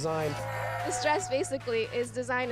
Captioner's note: man screams